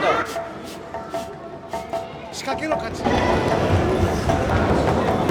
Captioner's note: speaking in foreign language